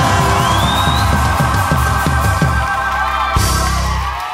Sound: applause

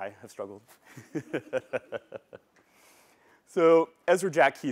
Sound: laughter

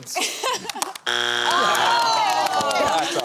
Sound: groaning

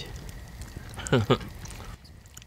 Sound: chuckles

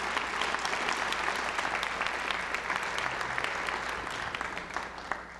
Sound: applause

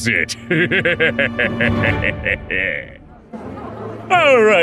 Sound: laughs evilly

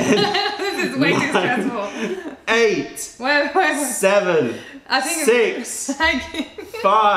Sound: laughter

